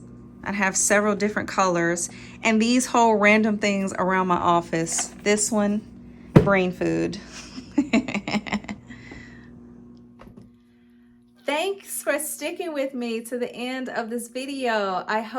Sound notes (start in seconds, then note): 7.6 laughing